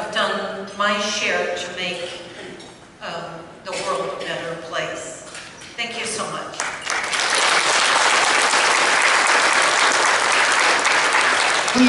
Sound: applause

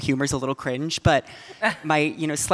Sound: audience laughing

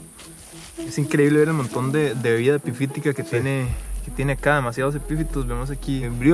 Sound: speaking in a foreign language

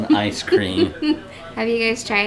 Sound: laughs

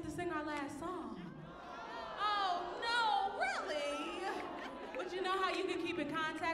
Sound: audience groaning

